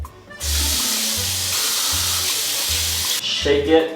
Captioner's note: water running